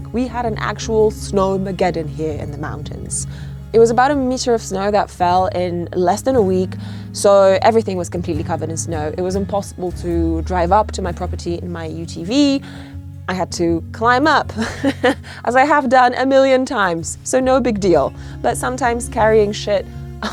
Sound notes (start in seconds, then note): 14.5 laughs